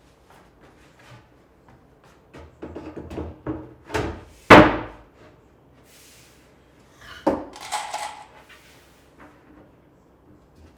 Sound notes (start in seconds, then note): 3.7 wood thudding; 7.5 screws rattling